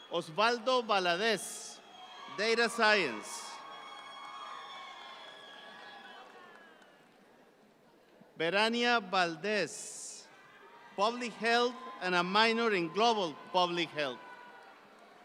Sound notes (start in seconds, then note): 3.7 audience cheering